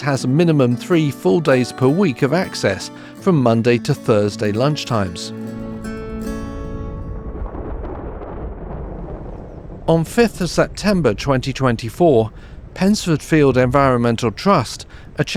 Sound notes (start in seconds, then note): 6.5 thunder